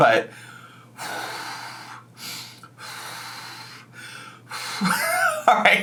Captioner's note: forcefully exhaling